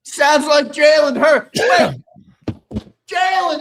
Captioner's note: coughing